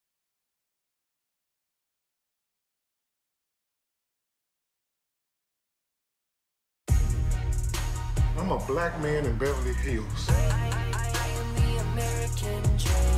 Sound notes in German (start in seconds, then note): 8.4 Off-Stimme